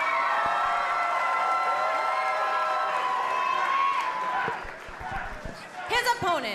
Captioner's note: cheers and applause